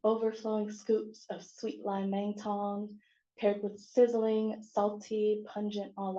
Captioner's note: non-english